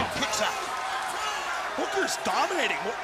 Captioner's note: crowd cheering